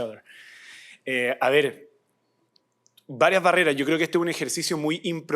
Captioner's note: non-english speech